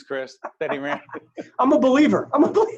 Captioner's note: both laughing